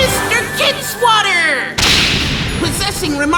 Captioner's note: explosion